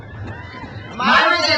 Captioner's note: crowd cheers